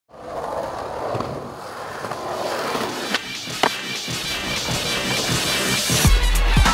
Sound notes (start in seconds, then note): 0.1 sounds of skateboarding